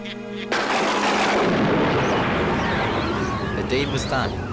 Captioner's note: thunder cracks